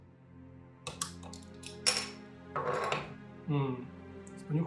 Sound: sound of bottle opening

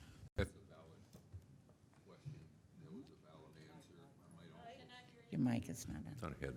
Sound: speaks off microphone

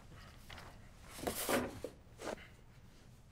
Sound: rustling papers

